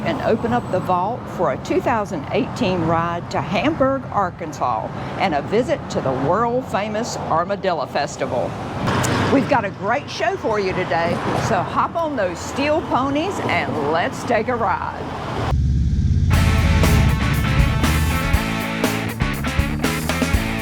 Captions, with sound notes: and open up the vault for a 2018 ride to Hamburg, Arkansas, and a visit to the world famous Armadillo Festival. We've got a great show for you today, so hop on those steel ponies and let's take a ride. (motorcycle engines roar past) (upbeat music)